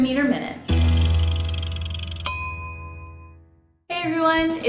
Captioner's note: mechanism clicks, dings